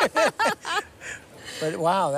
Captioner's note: both laugh